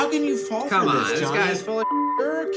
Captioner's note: beep